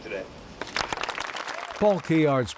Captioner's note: group applauding